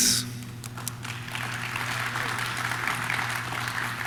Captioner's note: audience claps